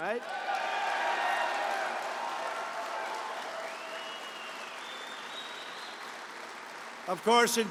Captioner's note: applause